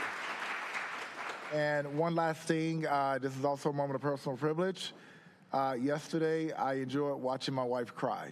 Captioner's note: applause